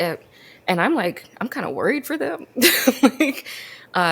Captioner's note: laughs